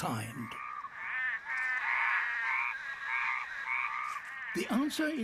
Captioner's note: croaking